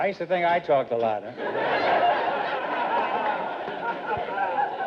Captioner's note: audience laughter